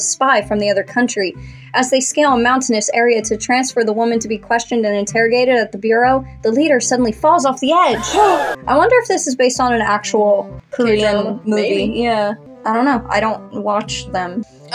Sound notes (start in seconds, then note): 7.9 crowd Gasps; 8.0 gasp